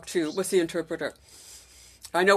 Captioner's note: speaking FRENCH